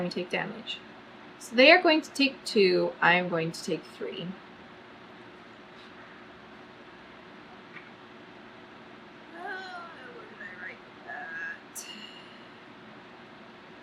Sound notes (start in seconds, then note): 11.0 groans